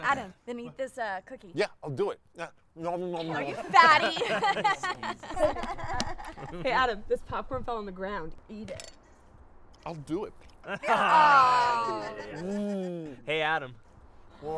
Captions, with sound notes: -Wait, Adam, then eat this, uh, cookie. -Yeah, I'll do it! Nom nom nom! You fatty! [EVERYONE LAUGHING] Hey Adam, this popcorn fell on the ground, eat it! I'll do it! [EVERYONE GROANING] Mmmmm! Hey Adam.